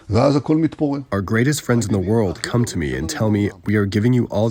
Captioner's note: through translator